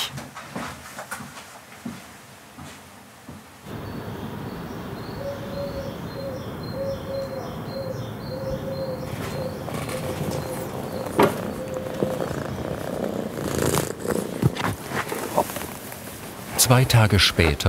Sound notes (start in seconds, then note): 4.8 birds chirping; 9.0 cat purring; 14.8 quietly